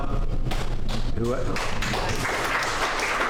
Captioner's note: applause